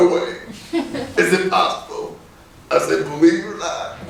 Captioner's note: laughing